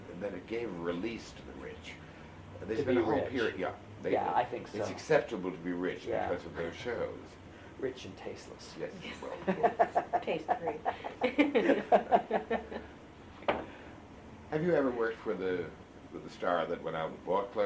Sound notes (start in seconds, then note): 9.0 laughs; 13.1 laughter